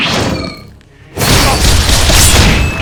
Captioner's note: occasional grunts